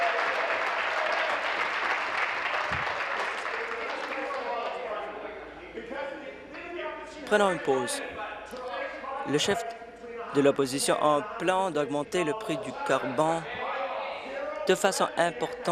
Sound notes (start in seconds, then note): 1.9 applause